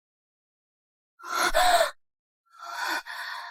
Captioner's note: gasp!